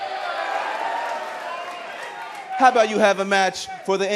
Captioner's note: cheers and applause